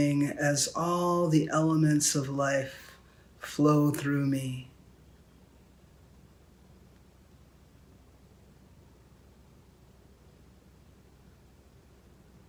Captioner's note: silence